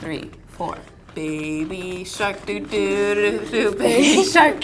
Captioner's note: laughs